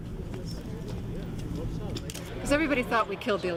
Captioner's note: grup konuşması